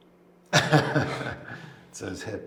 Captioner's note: man laughs